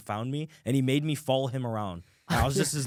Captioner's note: laughs